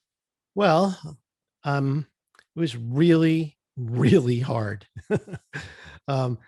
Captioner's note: chuckles